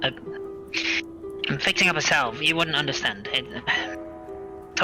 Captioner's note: impatient sigh